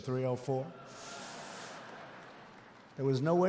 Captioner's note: laughter